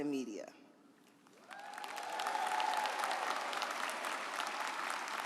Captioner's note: audience applauds